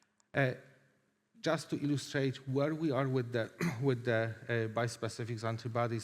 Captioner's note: clears throat